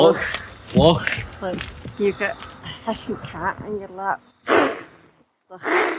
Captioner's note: hissing sound